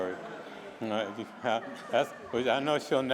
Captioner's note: laughter